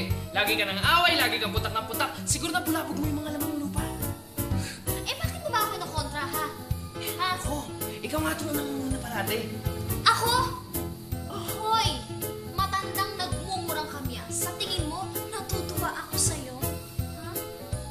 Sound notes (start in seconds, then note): 4.5 scoffs